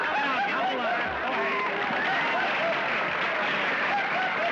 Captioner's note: laughter